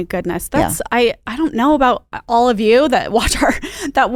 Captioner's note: laughs